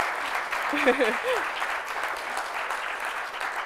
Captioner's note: laughs